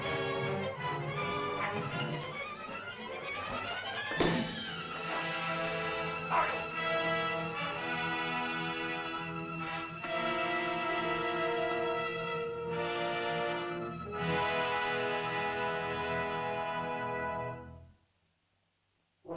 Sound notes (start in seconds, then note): 0.1 suspenseful music; 4.1 whack; 6.3 Loana's father yells out; 8.0 dramatic music